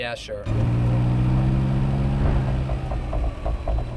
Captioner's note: car revving